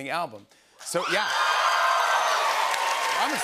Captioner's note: cheers and applause